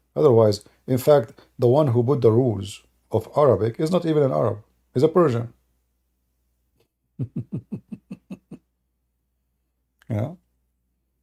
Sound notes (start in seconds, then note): 7.2 Ketawa